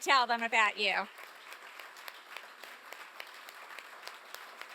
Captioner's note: applause